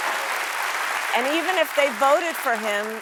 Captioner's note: applause